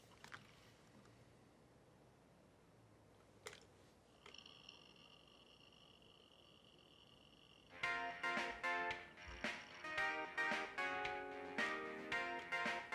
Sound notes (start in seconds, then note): 3.9 mouse clicks; 4.0 computer whirring; 7.7 upbeat music